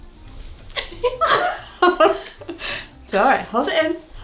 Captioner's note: both laugh